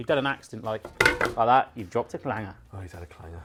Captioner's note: clattering pan